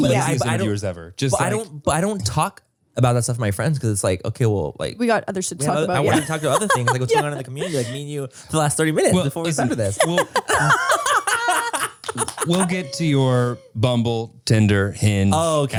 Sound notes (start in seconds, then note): 9.0 laugh